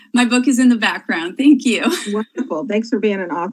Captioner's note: laughs